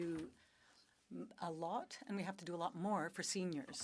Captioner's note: speaking French